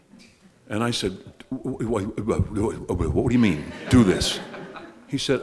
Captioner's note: mumbling